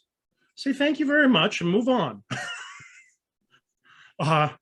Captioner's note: chuckles